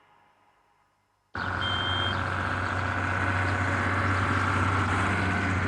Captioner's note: vehicle engine rumbling